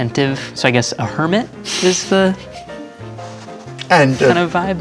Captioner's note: laughing